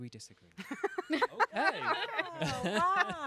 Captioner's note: laughing